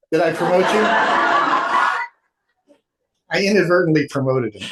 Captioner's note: audience laughs